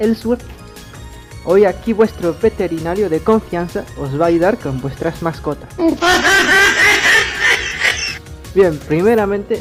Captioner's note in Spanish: mujajajajajaja